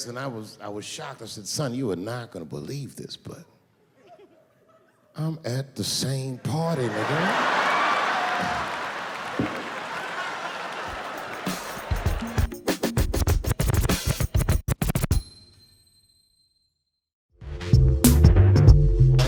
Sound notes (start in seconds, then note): 6.6 audience laughing; 10.8 upbeat music